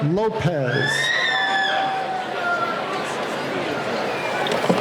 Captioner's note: cheering